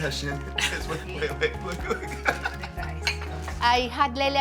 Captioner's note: laughing